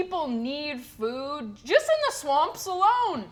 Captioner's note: none